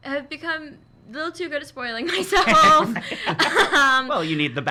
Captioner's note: laughs